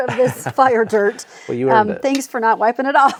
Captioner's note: chuckling